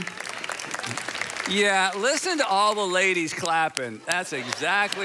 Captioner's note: congregation claps; clapping; congregation laughing